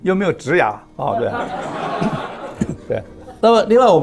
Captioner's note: laughs